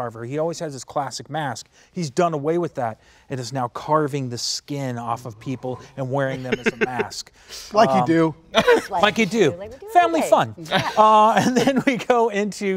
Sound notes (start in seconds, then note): 6.2 laughing